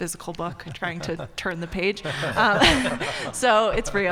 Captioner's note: group laughing